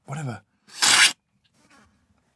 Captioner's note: slurp